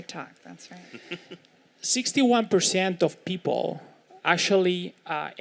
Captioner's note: laugh